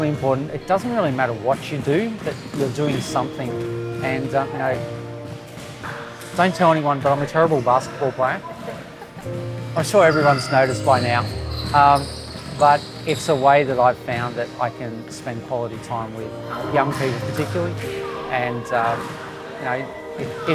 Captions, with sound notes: it doesn't really matter what you do but you're doing something. Don't tell anyone but I'm a terrible basketball player. - (laughs) - I'm sure everyone's noticed by now but it's a way that I've found that I can spend quality time with young people particularly and...